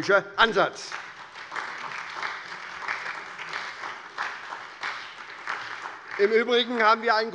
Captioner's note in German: Beifall bei der SPD